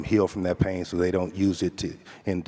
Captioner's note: none